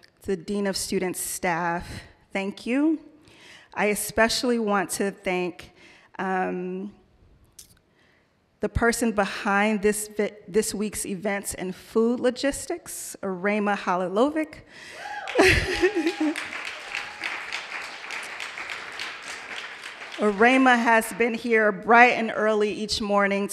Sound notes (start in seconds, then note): 14.9 audience cheering; 17.6 audience applauding